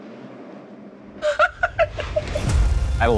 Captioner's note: laughs